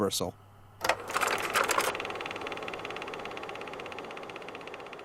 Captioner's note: mechanical clicking